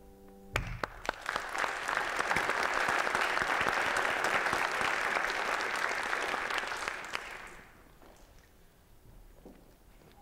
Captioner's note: applause